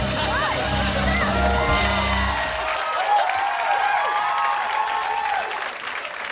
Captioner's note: cheering and applause